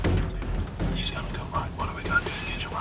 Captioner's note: whispering